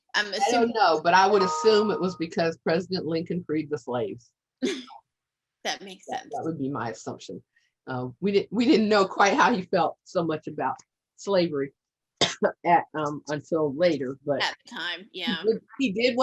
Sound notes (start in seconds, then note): 4.6 chuckles